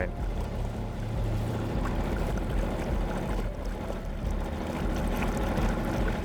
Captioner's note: gentle music continues; motor droning